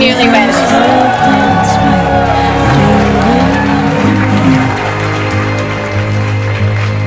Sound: guests cheer; guests clap

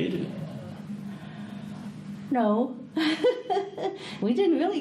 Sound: laughs

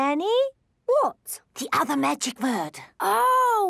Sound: whispering

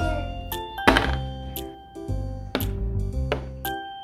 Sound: dice rolling; piece moving

